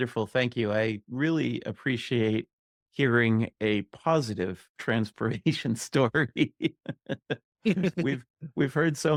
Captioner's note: laughing